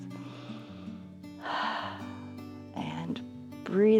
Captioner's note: inhales and exhales